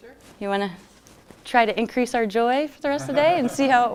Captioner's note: laughter